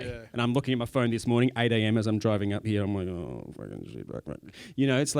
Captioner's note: mumbles